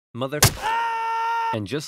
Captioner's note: Marat screams